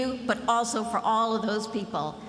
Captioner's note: none